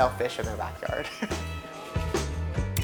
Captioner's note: laughs